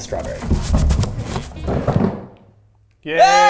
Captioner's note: box rustling